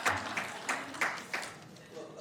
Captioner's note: applause